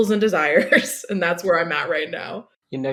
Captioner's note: laughs